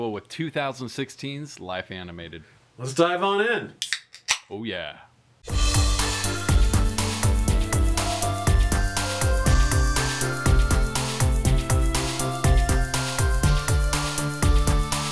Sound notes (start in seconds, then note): 3.8 beer can opening; 5.9 upbeat pop music